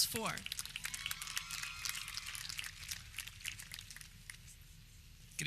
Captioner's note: audience clapping